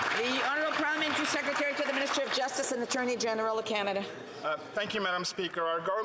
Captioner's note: some Applause